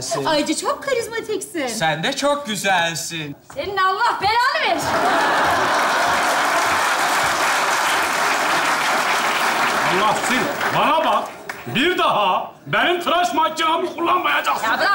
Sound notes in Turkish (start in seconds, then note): 4.8 Alkış sesleri